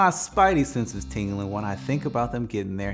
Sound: graphics buzzing

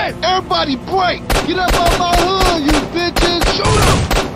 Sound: shootout starts

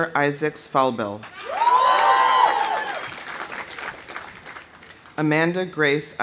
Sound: audience applauding; audience cheering

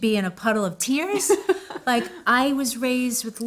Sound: giggles

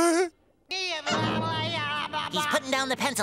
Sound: chuckles; babbling

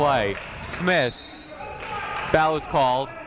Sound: whistle blowing

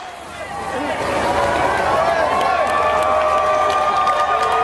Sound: crowd cheering

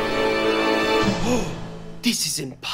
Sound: gasps

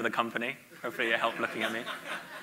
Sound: audience laughs

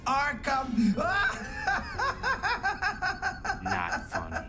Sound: laughs

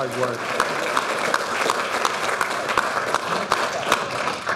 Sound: audience applauding

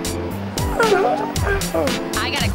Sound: yawning

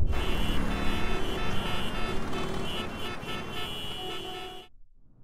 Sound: horn blaring

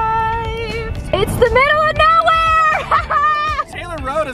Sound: laughs

